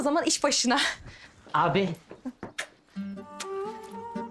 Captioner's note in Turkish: Öpme sesi